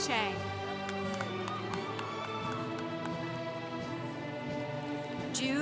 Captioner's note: congregation cheering